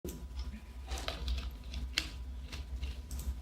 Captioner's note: rustling